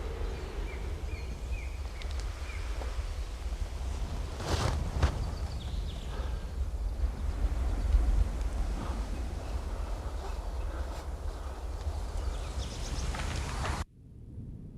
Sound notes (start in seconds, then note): none